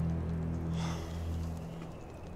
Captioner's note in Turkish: İç Çekme